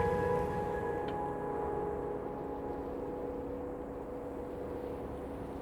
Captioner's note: wind blowing and waves crashing